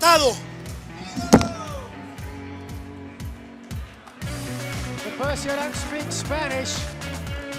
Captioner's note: speaking spanish